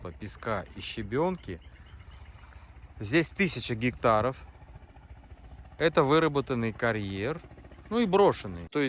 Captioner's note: speaking foreign language